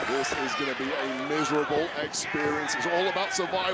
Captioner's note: crowd cheering